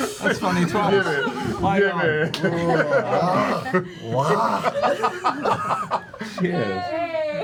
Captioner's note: laughter